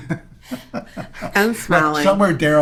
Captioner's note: laughing